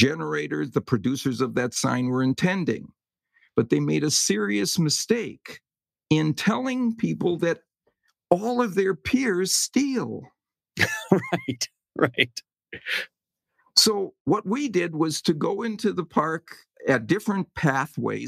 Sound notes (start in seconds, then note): 10.8 laugh